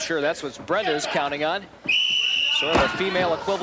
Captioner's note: whistle blowing